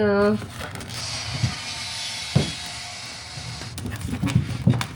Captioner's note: drill whirring